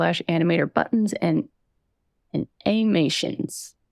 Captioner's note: none